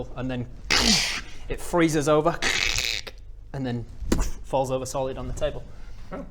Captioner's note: trrrssshhssh; boof